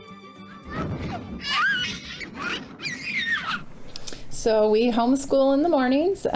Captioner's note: children laugh and squeal